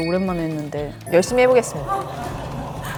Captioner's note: grumbling